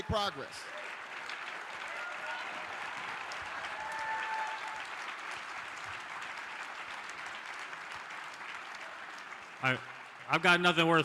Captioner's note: applause